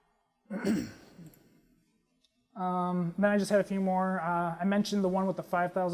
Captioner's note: cough